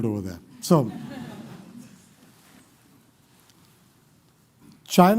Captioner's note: laughter